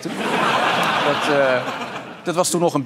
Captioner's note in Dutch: gelach